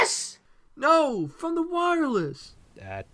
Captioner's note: shouting to her